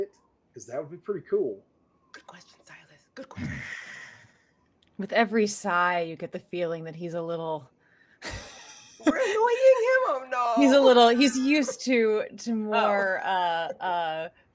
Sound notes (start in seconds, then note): 3.4 grunts; 9.0 laughing